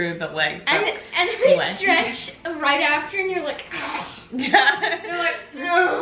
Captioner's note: groans